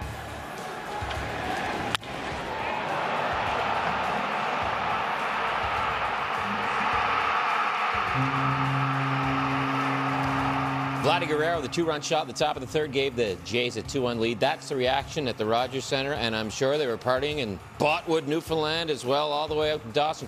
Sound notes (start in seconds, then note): 7.4 cheers; 13.4 horn